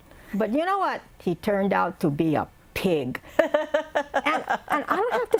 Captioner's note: laughter